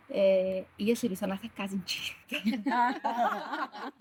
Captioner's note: laughter